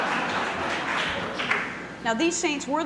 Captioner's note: laughter